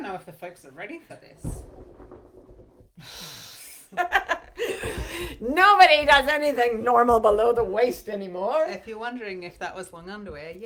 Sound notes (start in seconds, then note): 4.0 laughs